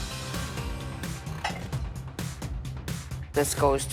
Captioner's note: intense music; objects clattering